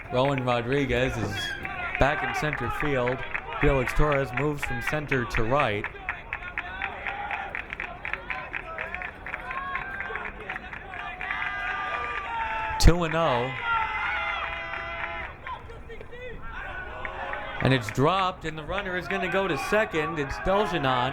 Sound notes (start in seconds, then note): 6.7 crowd clapping